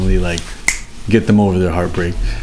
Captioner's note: loud snap